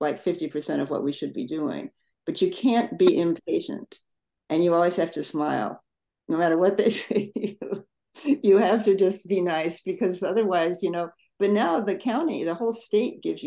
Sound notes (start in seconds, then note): 7.8 laughs